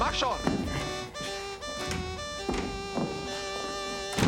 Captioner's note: speaking german